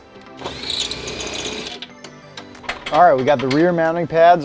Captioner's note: drill whirring